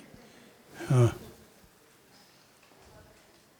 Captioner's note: murmuring